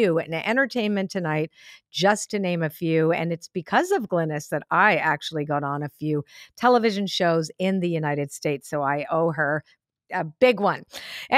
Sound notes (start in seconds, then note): none